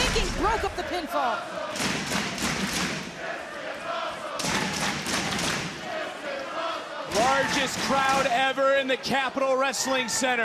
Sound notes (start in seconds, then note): 1.8 crowd chants "this is awesome"